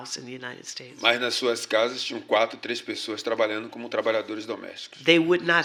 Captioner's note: speaking portuguese